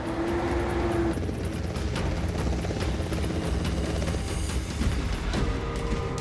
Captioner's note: helicopter blades whirring